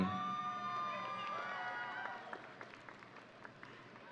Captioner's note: audience cheering